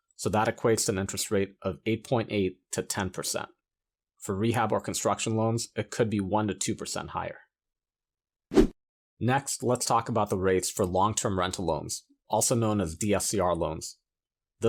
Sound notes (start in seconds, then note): 8.5 graphics whooshing